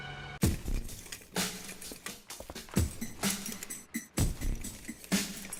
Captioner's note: rustling of metal and weapons